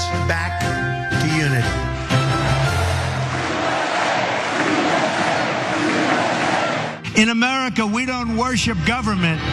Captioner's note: applause